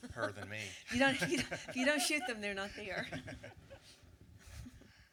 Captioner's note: laughing